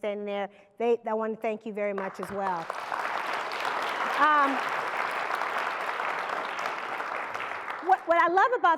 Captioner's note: applause